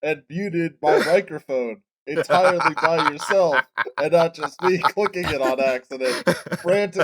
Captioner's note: cackling like a witch